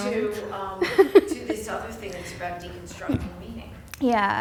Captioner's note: voiceover